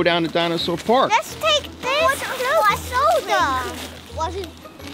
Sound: children babble

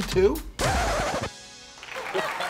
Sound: record scratch; crowd applause

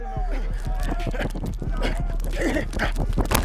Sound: grunting

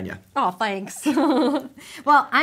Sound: chuckling

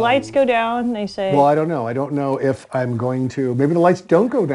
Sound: chuckles

